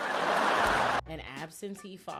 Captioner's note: audience laughing